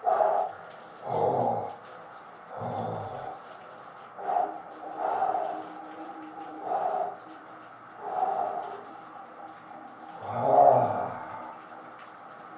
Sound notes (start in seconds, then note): 10.2 more groans